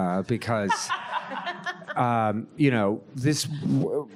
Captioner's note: panelists laugh